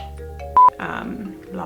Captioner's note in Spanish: bip